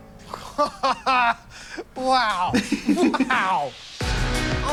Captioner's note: laughs